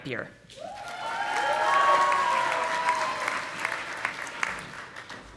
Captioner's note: audience applauding